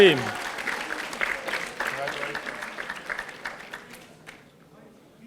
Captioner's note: audience applauding